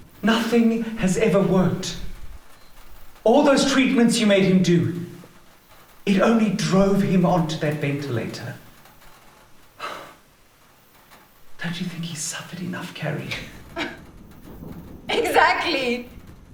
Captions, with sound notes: Nothing has ever worked. All those treatments you made him do-- --it only drove him onto that ventilator. (Victor exhales.) Don't you think he's suffered enough, Carrie? (Carrie scoffs, chuckling sadly) Exactly!